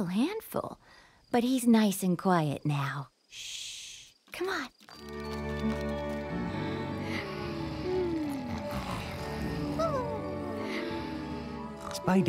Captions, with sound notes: FOR YOU AND SPIDERUS SOME DAY. MAYBE. SOME DAY. (SNORING)